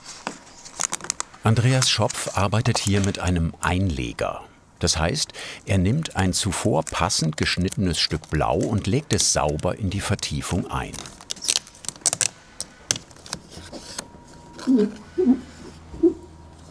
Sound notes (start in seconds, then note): 10.8 tearing noises; 14.5 scratching noises